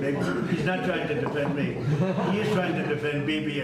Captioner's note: laughter